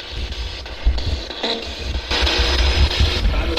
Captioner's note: static buzzing